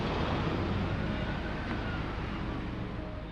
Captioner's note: siren wails